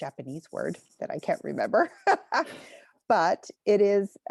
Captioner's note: chuckles